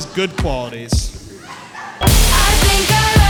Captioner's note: woman laughing